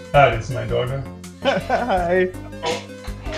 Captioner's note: laughter